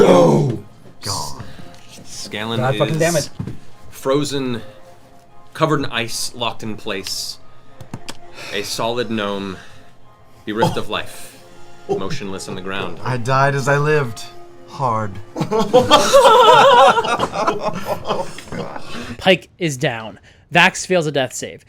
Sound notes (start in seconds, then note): 15.3 laughter